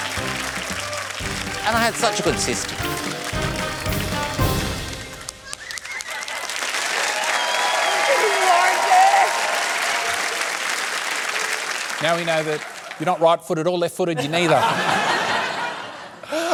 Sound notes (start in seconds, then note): 9.4 cheering applause; 14.1 laughter